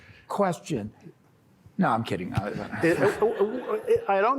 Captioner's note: laughter